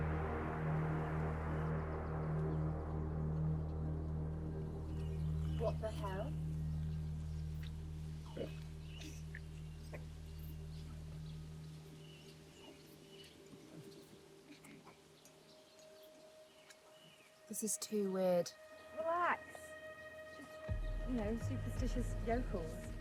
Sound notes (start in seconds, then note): 2.6 birds chirping; 13.9 soft melodic music